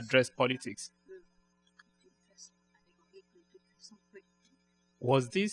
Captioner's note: speaking french